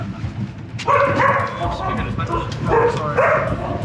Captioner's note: dog barks